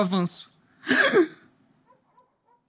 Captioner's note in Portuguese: faz som de surpresa